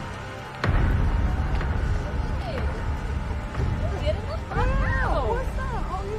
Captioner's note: prisoners chattering